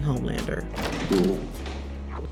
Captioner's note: door clicking